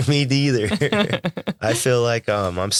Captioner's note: both laughing